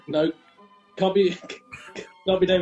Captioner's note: giggling